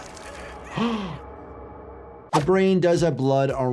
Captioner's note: gasps